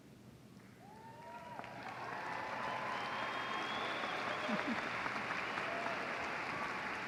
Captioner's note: applause